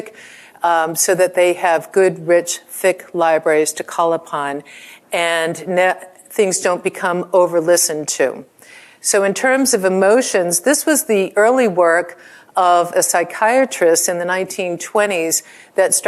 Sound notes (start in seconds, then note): none